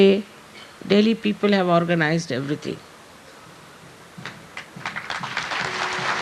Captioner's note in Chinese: 掌聲